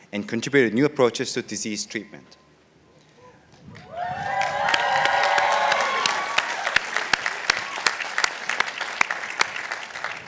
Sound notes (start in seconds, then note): 3.8 participants applauding